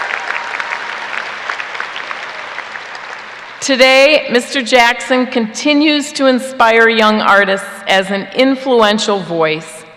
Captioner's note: applause